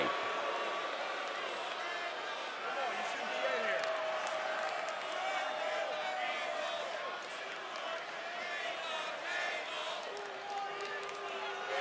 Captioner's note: crowd chatter